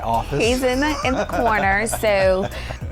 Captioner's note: laughs